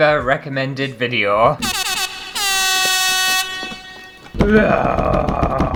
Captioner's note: air horn!!!